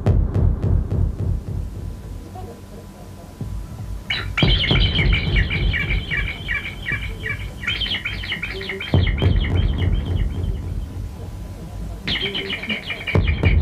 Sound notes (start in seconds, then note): 5.7 sharp reverberating high-pitched sound